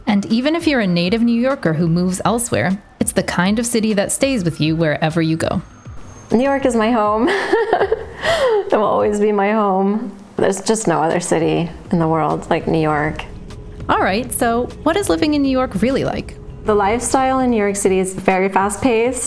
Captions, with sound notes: And even if you're a native New Yorker who moves elsewhere, it's the kind of city that stays with you wherever you go. New York is my home. (laughs) It will always be my home. There's just no other city in the world like New York. All right, so what is living in New York really like? The lifestyle in New York City is very fast-paced.